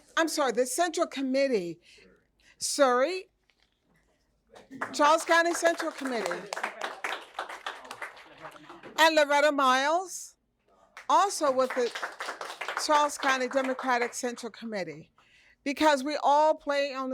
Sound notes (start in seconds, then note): 8.0 applause